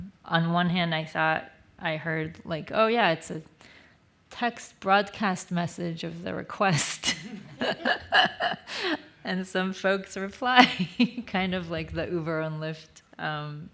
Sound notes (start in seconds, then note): 7.0 laughs